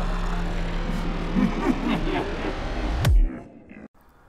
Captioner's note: evil laugh